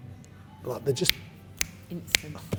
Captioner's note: snaps fingers